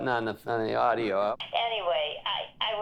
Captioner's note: on Speakerphone